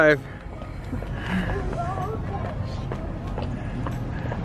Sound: walking

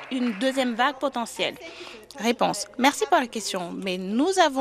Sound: applause

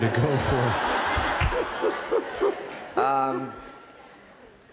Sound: laughter

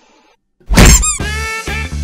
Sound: squeaky toy

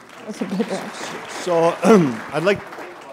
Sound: applause

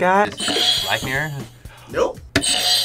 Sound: bell rings

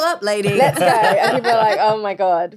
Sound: all laughing

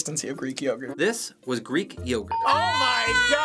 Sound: ding

